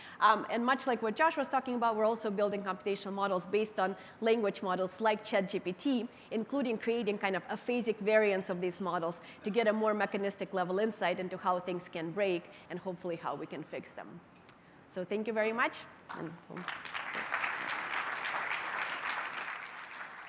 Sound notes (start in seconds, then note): 16.5 applause